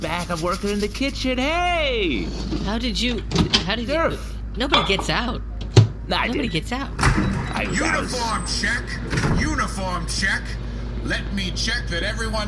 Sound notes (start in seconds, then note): 4.6 putting something in the microwave and starting it; 6.9 door opens